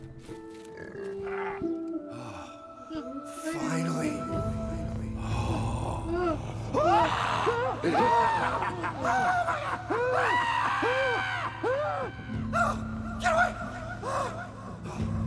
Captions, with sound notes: - Finally. (laughing) (screaming) Oh, get away.